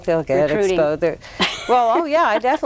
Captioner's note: laughs